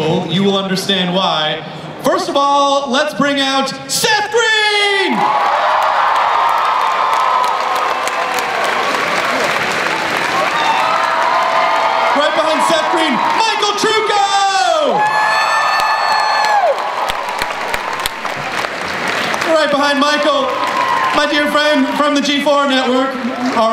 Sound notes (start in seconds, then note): 5.3 crowd cheers and applauds; 11.4 crowd cheers; 15.1 crowd cheers